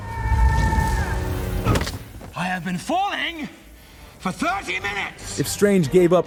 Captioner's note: screams